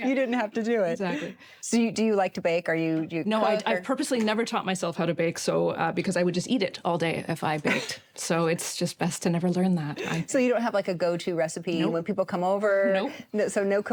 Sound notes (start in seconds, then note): 7.6 chuckles